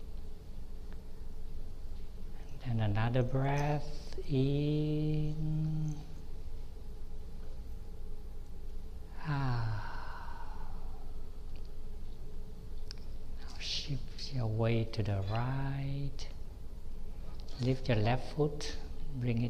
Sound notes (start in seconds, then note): 6.6 breathe